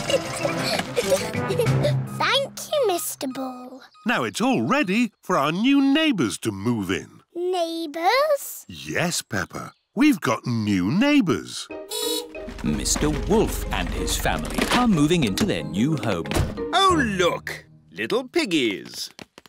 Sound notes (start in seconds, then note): 0.0 giggling; 11.3 horn beeps